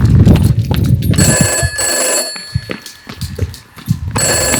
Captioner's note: phone rings